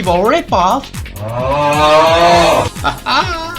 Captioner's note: groan